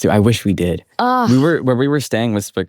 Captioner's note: groans